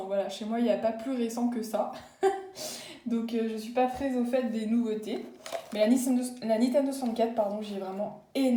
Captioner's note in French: rires